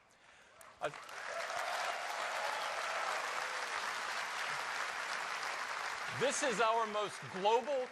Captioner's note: applause